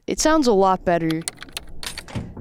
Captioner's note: keyboard clacks; latch clunks; keys jangle